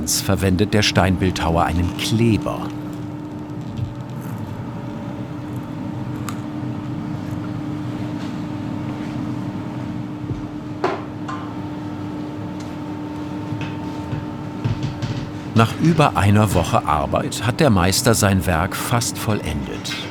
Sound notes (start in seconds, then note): 6.3 machine whirring in the background